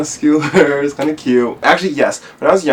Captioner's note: chuckles